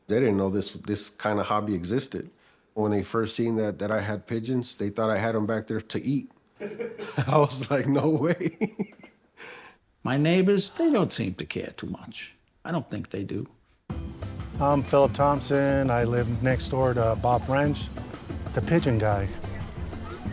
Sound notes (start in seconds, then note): 6.6 laughs; 8.7 crew laughs; 20.1 upbeat music; 20.1 water splashing